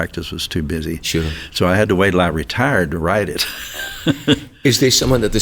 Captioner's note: chuckles